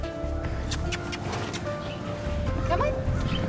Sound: kissing sounds

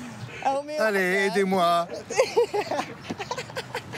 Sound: laughs

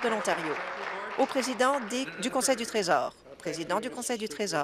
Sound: applause

